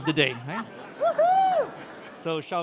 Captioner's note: cheering